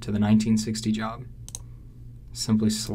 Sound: computer mouse clicking

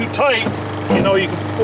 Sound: drill rattling

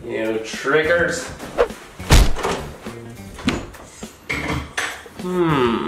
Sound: door thuds

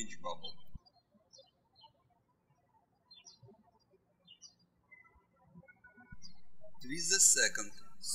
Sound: birds chirping

